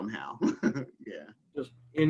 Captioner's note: laughing